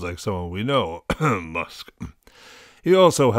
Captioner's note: coughs